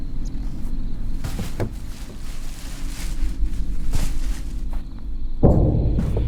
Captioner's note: bag rustles; can clatters; eerie whispering voice; dramatic, foreboding music